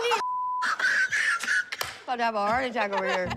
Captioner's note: laughter